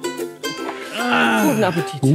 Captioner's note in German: Zufriedenes Seufzen